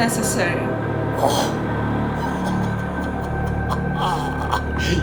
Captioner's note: chuckling